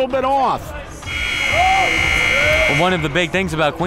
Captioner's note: buzzer rings